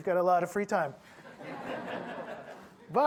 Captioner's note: audience laughing